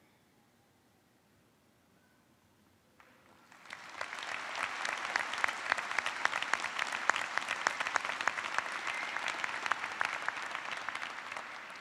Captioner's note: applause